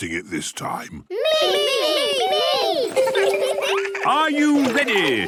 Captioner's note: laughter